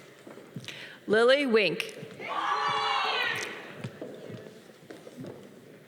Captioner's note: audience cheering